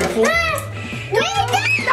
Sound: screams

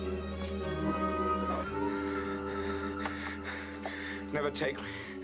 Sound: ragged Breathing

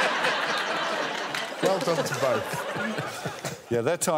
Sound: all laughing

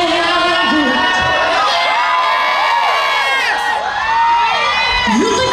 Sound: crowd cheering

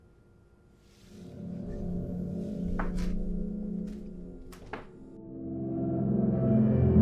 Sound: tense ominous music; footsteps thudding

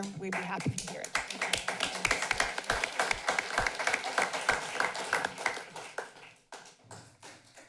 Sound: applause

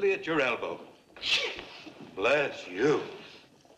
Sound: sneezes

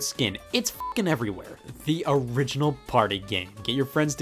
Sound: beep

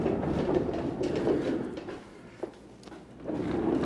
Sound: rack rumbles

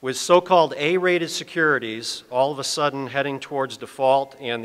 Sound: none

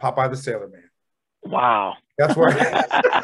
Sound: laughter

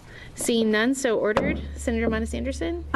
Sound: gavel bang

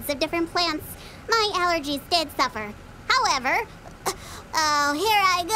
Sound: stifles sneeze

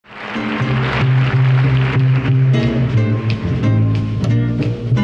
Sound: audience applauds

